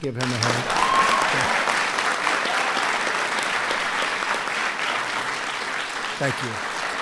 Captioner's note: applause